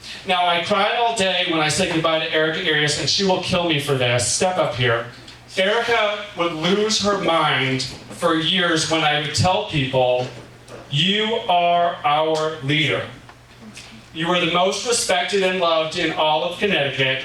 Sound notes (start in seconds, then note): none